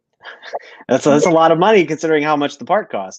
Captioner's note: laughter